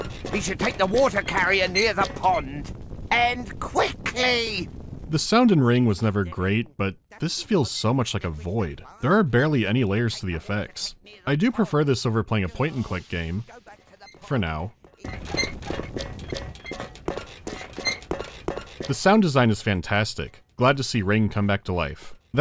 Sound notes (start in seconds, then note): 13.8 creak-creak-creak-creak-creak-creak-creak